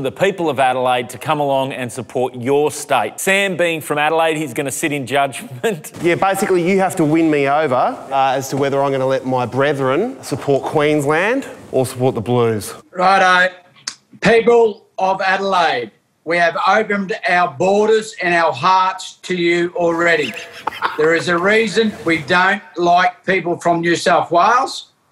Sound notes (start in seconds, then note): 19.8 people laughing